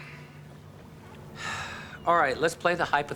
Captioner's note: sighs